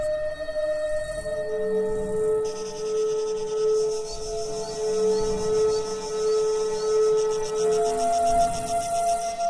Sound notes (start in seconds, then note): 2.6 insects trilling